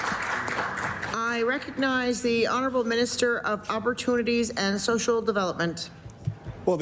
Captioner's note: applause